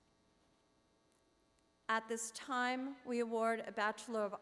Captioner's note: none